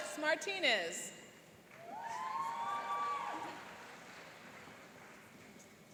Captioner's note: cheering and applauding